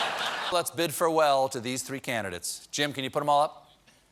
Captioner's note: laughter